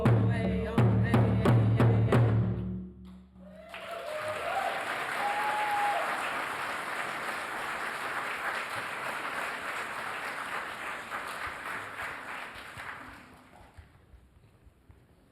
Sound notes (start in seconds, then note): 3.4 applause